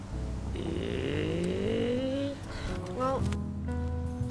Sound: alien Language Sounds

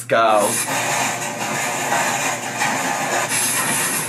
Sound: dryer thumping

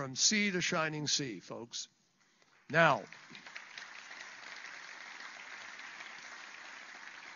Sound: applause

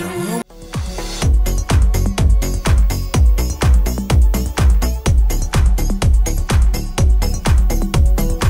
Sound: song Humming

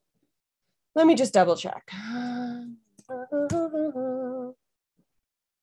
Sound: hums melodically

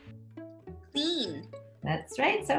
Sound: automated Voice

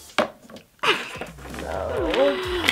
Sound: laughs

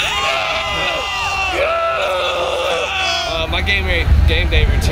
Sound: cheering and yelling

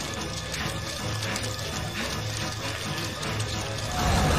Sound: breaths heavily

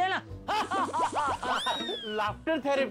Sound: laughing

